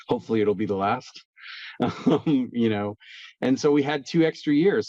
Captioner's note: laughs